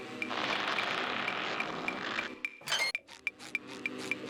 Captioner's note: ticking, light buzzing; ticking; ticking, light buzzing